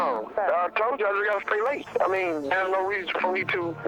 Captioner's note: on phone